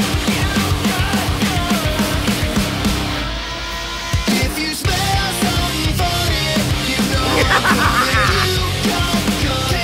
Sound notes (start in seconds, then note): 7.2 insane laughter